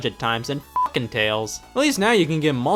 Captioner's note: beep